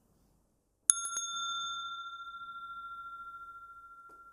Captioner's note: rings the bell